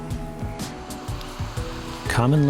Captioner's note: water rippling